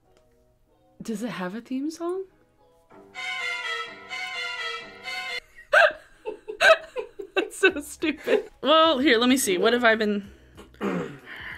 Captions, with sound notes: - Does it have a theme song? (spooky music) (both laughing) That's so stupid. Well, here, let me see. What have I been...